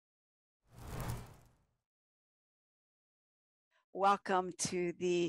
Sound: whooshing sound

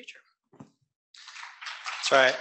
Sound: applause

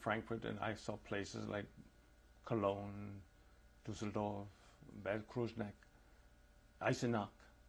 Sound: non-english

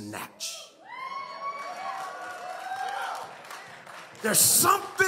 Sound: audience cheers

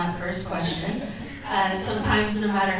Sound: audience chuckles

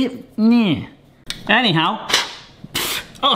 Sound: blows sharply

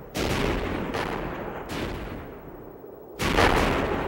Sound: explosions bang

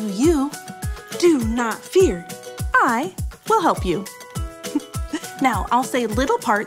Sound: chuckles

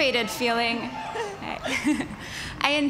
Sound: cheers, laughing

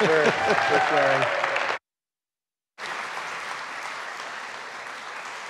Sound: audience clapping

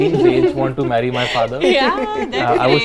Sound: laughs

